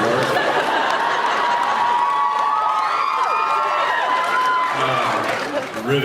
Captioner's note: laughs, cheers; laughs